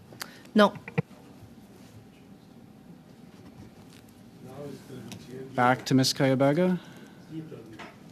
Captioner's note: silence